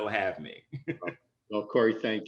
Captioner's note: laughter